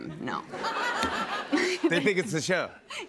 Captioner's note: laughter